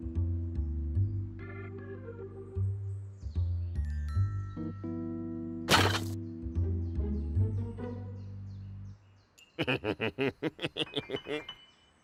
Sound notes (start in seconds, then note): 9.5 chuckles